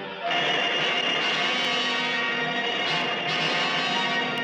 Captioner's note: lasers blasting